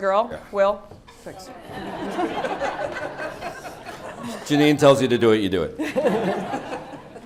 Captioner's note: laugh; laugh